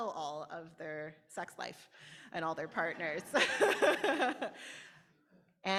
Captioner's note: audience laughter